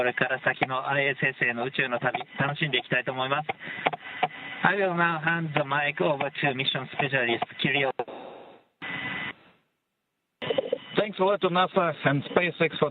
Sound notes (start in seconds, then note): 6.3 speaking in native tongue